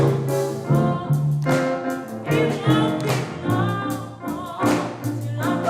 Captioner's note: singers clapping